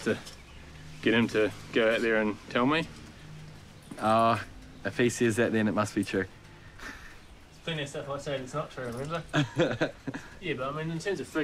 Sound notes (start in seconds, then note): 6.8 chuckles; 9.2 laughs